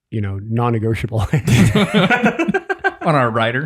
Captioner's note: group laughs